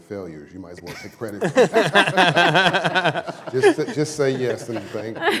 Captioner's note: laughter